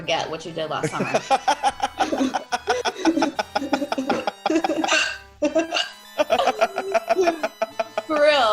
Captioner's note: laugh